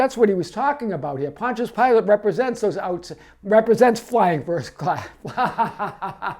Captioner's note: laughing